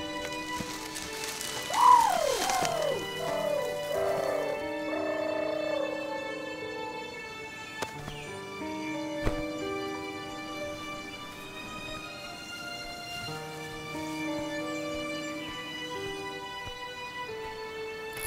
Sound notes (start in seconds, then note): 0.0 bushes rustling; 1.7 Pokemon calling